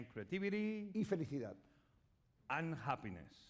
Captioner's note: speaking spanish